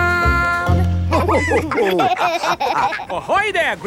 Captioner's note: all laughing